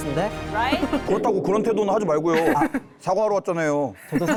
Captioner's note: sound effect erasing guilt